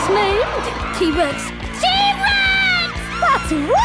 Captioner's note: shouting